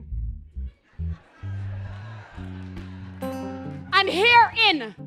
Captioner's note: laughter and applause